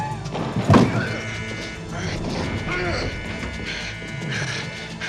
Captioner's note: alarm buzzing